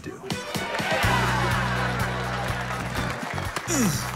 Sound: audience applauds

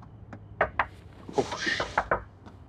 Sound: knocking on window

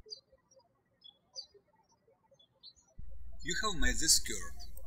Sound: birds chirping

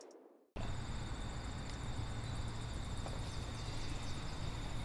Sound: crickets and birds chirping

